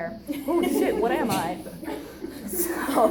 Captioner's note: audience laughs